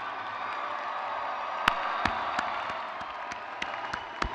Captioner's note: crowd cheers